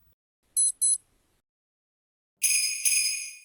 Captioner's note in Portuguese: Som de Beep do Relógio